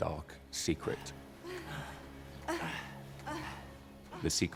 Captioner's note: they groan